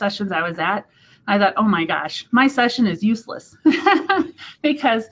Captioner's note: laughs